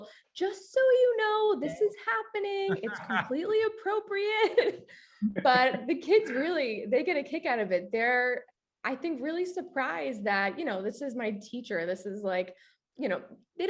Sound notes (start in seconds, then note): 2.7 chuckles